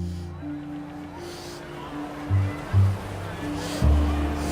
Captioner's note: breathes heavily